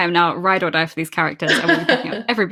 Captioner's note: laughs